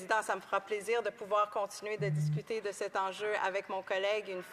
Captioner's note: speaking French